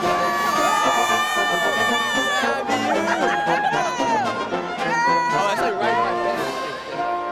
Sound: applause

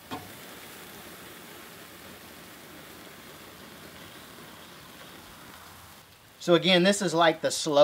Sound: sizzling

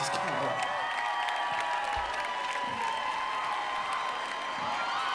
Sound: crowd cheering

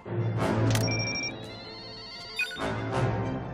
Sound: beeping

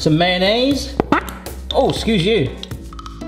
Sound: lid popping

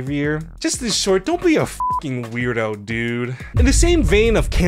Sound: beep

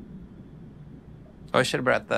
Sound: gentle underwater bubbling

